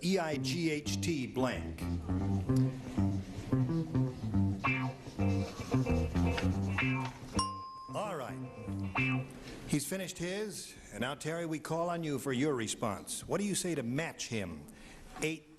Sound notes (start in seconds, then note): 1.7 theme music playing; 7.4 bell dings